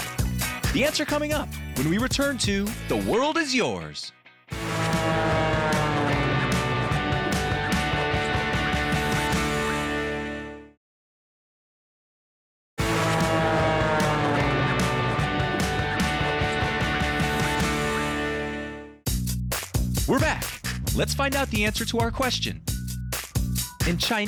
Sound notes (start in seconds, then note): 4.6 engine whirring; 6.4 upbeat music; 12.8 engine whirring; 14.8 upbeat music